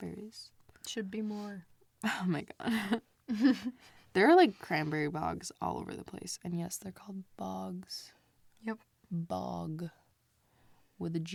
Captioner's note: laughs